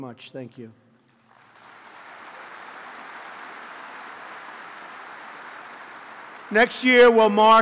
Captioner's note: applause